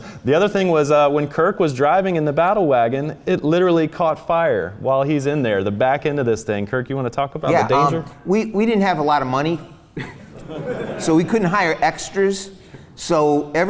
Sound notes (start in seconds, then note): 10.0 laughs